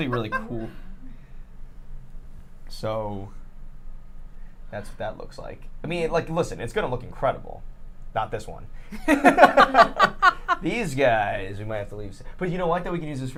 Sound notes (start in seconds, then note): 9.1 all laugh